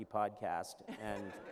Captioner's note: laughter